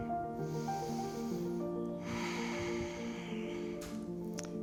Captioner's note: deep breathing